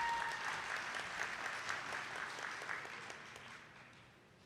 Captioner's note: attendees clapping